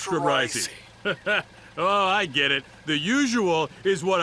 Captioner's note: laughs